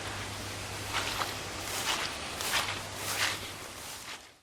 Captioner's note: footsteps sloshing